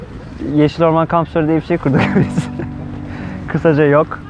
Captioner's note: laughs